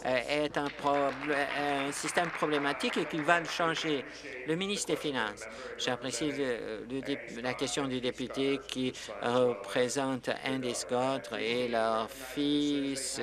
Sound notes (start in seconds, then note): 3.8 applause